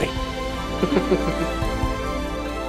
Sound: giggling

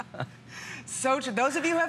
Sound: laughter

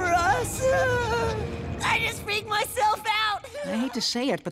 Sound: giggles

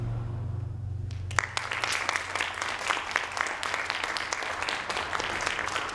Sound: audience applauding

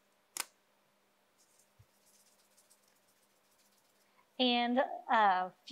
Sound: salt shaking

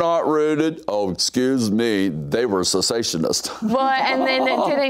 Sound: laughs

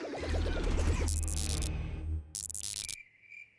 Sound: electronic buzzing

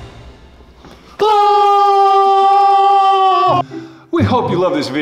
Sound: both screaming

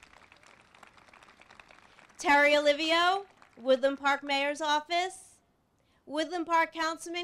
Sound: applause

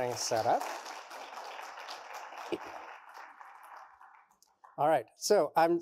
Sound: applause

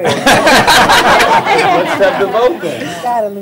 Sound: laughter

